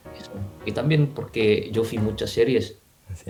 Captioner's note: Spanish